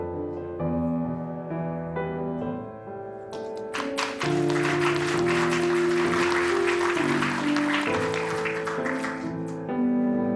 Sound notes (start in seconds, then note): 3.3 applause